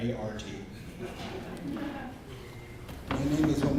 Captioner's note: audience laughs